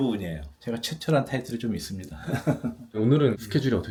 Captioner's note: chuckles